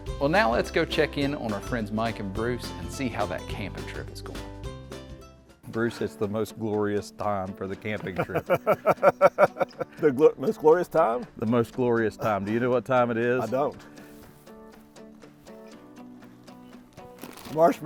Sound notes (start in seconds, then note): 8.1 laughs; 14.3 upbeat music